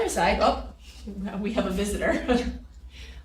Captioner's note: laughs